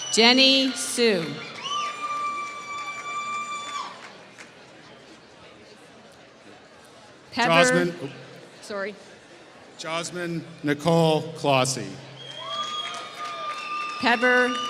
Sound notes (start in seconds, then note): 2.8 applause; 12.2 applause